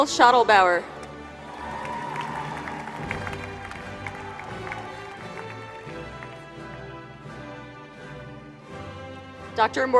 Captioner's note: applause